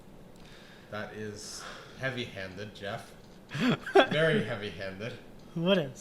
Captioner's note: giggling